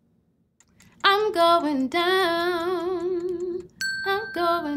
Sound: chiming ding

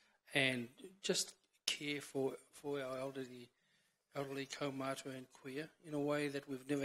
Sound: foreign language

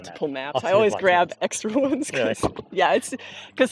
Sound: laughs

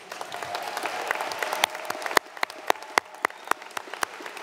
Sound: audience applauds

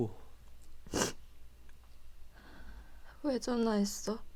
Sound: sobbing

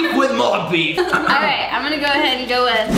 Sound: they laugh

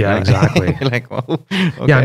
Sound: laughter

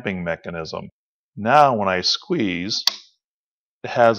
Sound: click

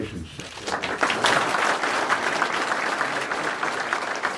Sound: audience applauds

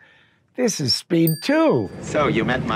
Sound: bell dinging

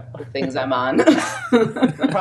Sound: all laughing

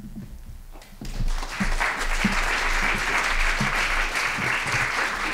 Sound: applause

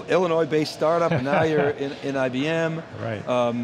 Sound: laughing

